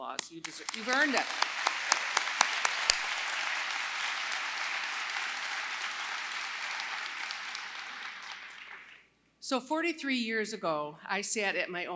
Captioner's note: applause